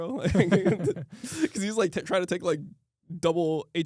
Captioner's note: laughs